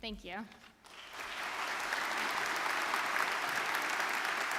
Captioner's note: audience clapping